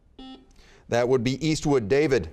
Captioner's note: buzzer beeping